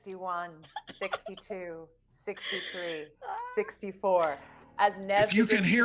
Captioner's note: laughing